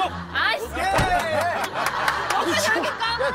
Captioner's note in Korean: 퍽!